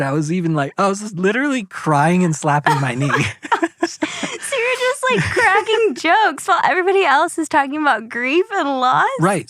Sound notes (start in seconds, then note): 3.2 laughs